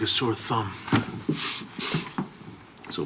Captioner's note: sniffles